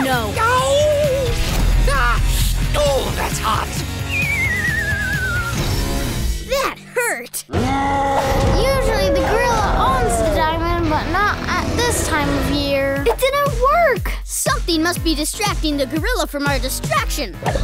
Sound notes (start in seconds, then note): 4.0 slide whistle blows; 7.5 gorilla roaring; 13.7 upbeat music